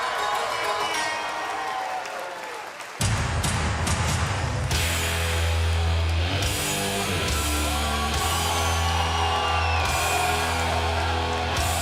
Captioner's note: cheers & applause